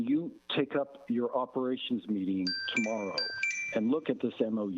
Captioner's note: chime